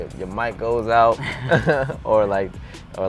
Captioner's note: laughs